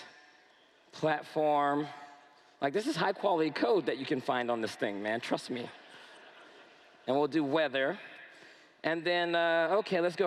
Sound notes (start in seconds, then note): 4.0 laughter